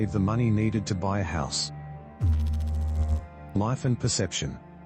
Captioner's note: electrical noise